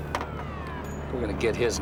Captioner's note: siren wailing